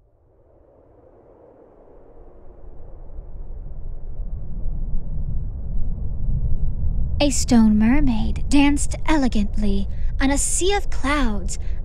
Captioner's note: wind and soft rumbling